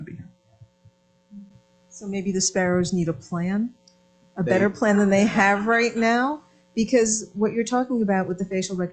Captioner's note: laughter